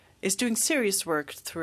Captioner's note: speaking French